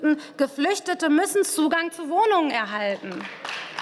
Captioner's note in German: Beifall